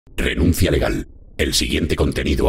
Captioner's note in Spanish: voz robotica